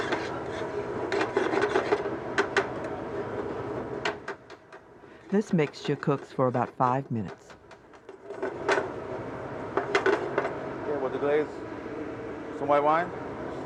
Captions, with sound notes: - [Voiceover] This mixture cooks for about five minutes. - Okay with the glaze, some white wine.